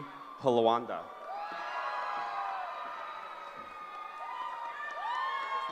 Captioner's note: cheering